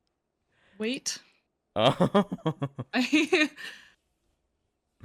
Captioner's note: laughter